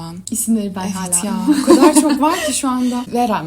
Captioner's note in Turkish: kahkaha